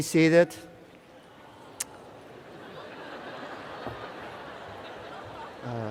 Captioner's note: cheers and Applause